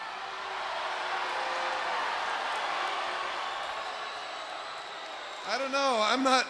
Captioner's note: crowd cheering